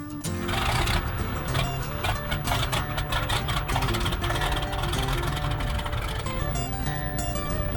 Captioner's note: engine revving